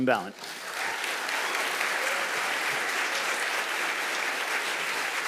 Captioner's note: audience applauding